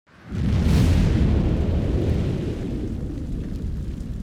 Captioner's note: fire raging